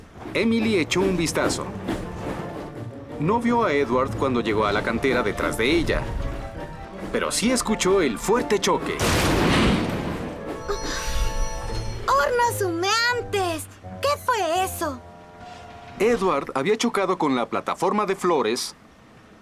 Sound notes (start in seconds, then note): 8.9 crash!